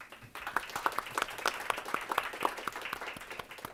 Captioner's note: audience claps